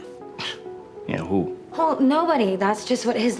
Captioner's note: scoffs